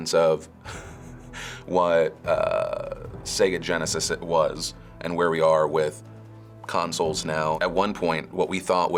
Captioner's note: chuckles